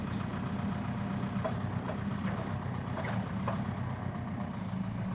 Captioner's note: truck engine whirring